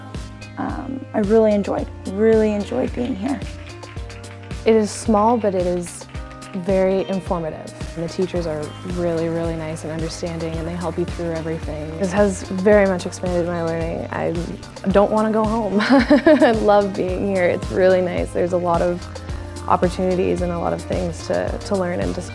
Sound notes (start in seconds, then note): 15.8 laughing